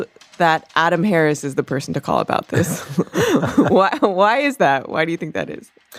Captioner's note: both chuckle